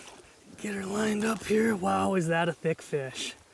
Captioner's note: voiceover